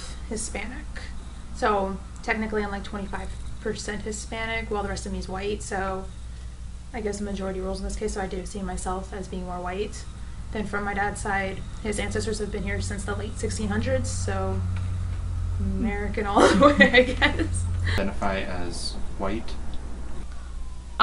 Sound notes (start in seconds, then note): 16.2 laughs